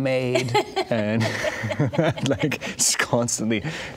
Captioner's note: laughing